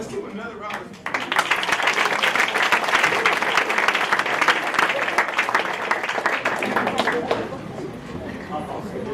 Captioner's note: applause